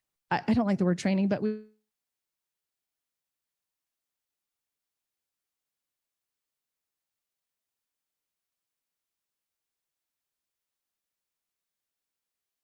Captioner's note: audio cuts out 40:22